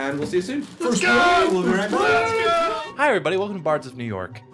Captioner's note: yelling